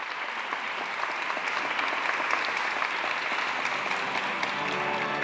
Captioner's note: applause